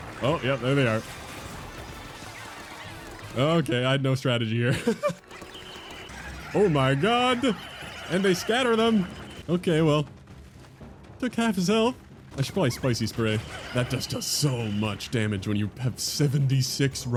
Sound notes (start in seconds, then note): 4.7 laughs